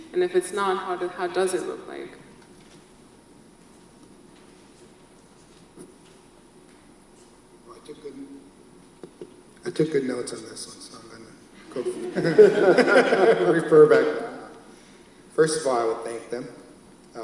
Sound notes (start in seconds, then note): 11.7 laughs